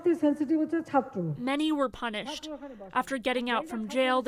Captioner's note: voice-over; through translator